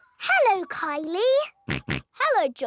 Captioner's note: snorts